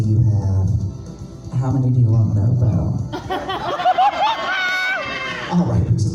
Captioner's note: audience cackles